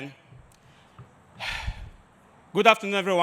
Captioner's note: sighs